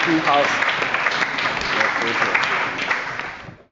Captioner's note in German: Allgemeiner Beifall